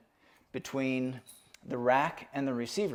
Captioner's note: metal jingling